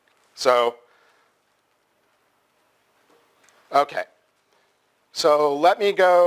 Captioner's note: pause